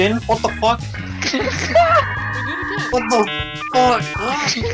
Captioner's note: laughing